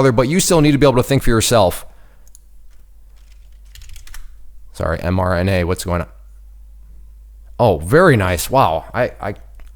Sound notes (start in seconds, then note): 3.1 keys typing